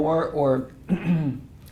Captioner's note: cough